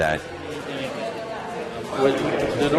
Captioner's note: patrons chattering